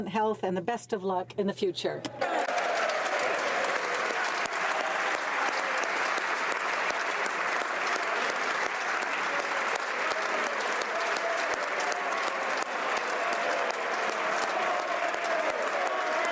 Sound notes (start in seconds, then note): 5.7 applause